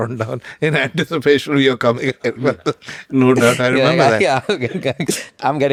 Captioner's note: laughs